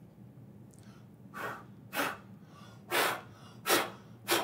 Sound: blowing

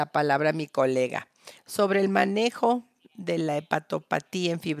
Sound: a través de intérprete

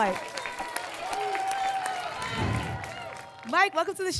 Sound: applause and cheering

